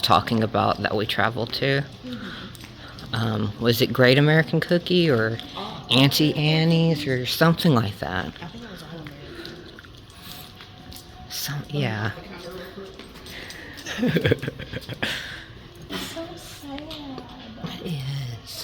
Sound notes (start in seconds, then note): 13.6 laughs